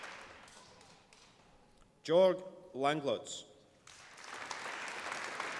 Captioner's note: applause